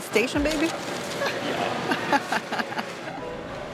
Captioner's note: laughs